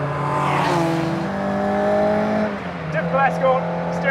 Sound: car engine revving

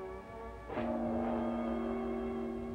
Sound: doorbell

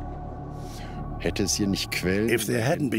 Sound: speaking German

